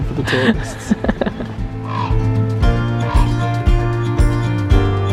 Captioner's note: laughs; gentle music continues